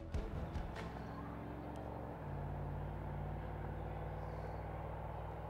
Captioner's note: engine revving in background